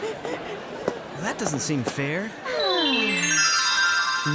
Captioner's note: none